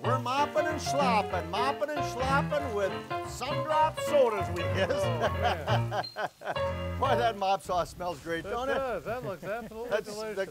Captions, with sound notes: We're moppin' and schloppin', mopping and schloppin' with Sundrop Sodas, we guess. (laughs) Why that mop sauce smells great, don't it? - It does. That looks absolutely delicious.